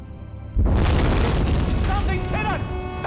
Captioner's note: crash